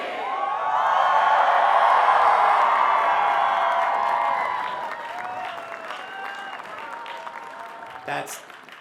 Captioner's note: cheers and applause